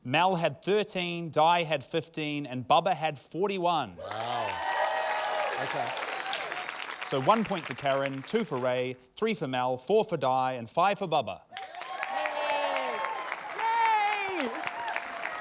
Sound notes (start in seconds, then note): 4.0 cheering, applause; 11.5 cheering, applause